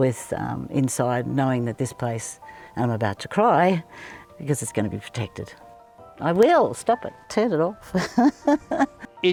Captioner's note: laughs